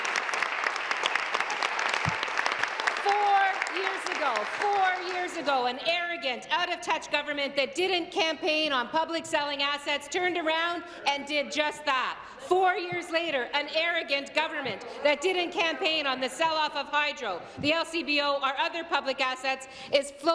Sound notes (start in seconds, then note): 3.6 applause